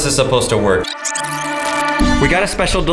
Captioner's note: tape rewinding